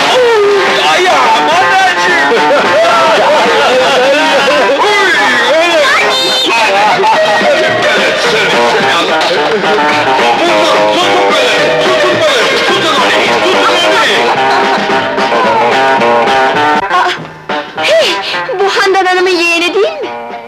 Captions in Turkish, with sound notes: Uy, ayağım! [Kahkahalar] - Uyy! - Nanik! Tutun onu, tutun onu! Ah, hey, bu Handan hanımın yeğeni değil mi?